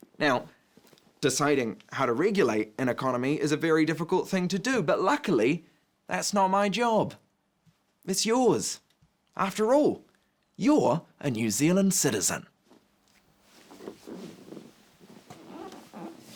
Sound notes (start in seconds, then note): none